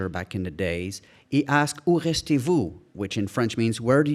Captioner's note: speaking in foreign language